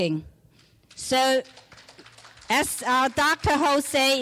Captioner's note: clapping